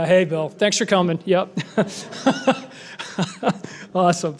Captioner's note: laughs